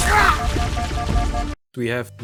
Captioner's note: beepbeepbeepbeep